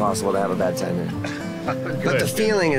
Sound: laughs

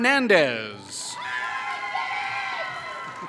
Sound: applause

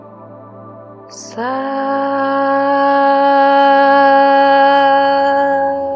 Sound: chanting in foreign language

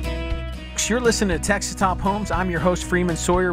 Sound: voiceover

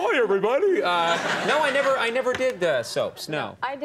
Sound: audience laughing

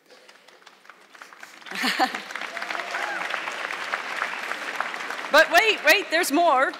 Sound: audience clapping; chuckles

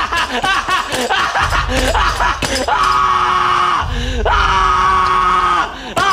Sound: laughing manically; pounding the lime and screaming

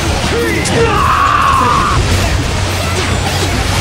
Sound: KO scream

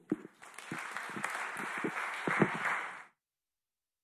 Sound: audience clapping

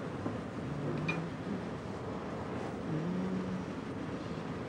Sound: chef hums softly

